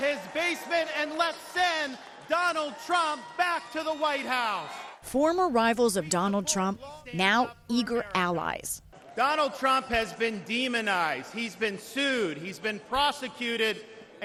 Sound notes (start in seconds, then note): 5.0 cheers; 5.0 applause